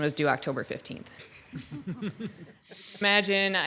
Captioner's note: audience laughing